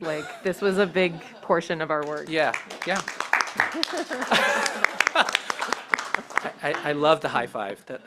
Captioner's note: applause